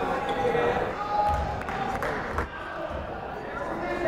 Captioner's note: yelling